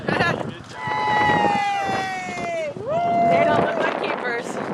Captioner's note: cheering